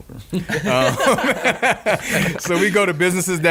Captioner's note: laughing